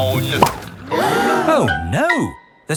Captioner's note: all gasp